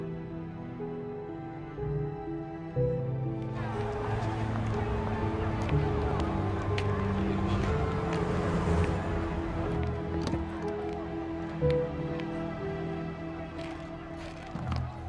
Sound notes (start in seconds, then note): 3.3 crowd talking